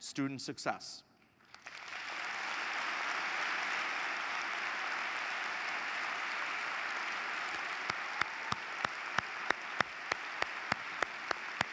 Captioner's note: applause